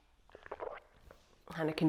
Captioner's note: gulps